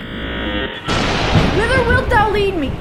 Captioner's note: lightning cracking